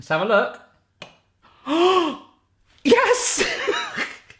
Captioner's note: gasping